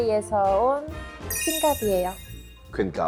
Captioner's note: exchanging-names sound effect